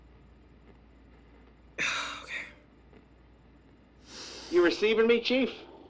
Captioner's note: static, footsteps on gravel